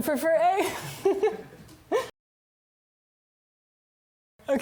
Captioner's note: chuckles